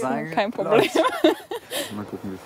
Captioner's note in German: lacht